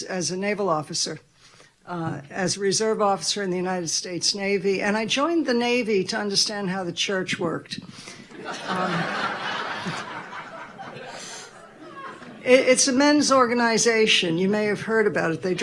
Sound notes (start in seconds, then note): 8.2 audience laughing